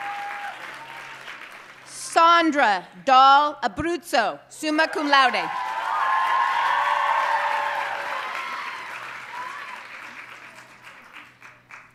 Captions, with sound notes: Sondra Dahl Abruzzo, summa cum laude. (audience cheering and applauding)